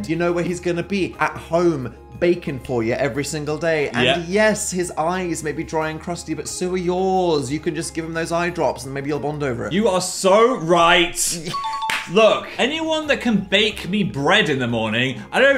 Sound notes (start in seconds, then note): 11.4 bell dings